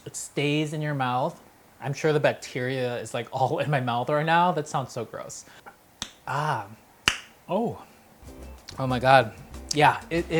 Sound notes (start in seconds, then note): 6.1 clicks tongue; 8.2 upbeat music